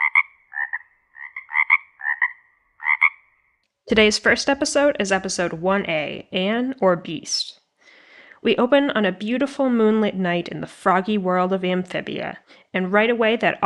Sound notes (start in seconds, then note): 3.8 frogs croaking